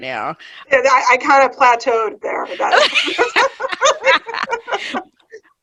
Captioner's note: all laughing